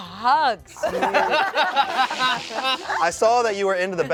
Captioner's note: everyone laughs